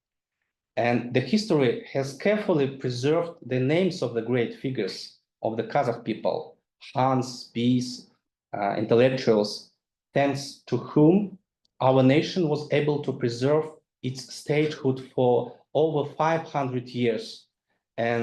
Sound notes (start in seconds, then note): 7.5 speaks in foreign language